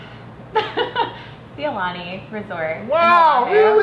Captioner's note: laughs